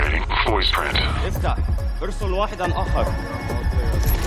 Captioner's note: guard speaking Arabic